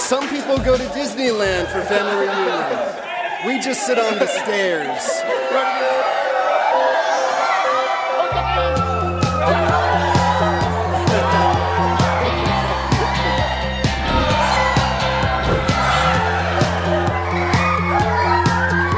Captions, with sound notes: - Some people go to Disneyland for family reunions. We just sit on the stairs. (yelling and laughing) (bright music)